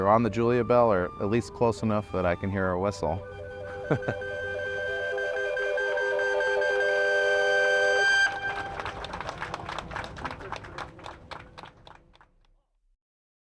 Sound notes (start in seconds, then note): 3.4 whistle blowing triumphantly, laughs; 5.8 cheers and applause